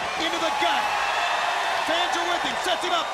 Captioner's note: crowd cheering